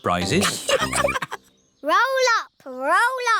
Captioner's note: all laughing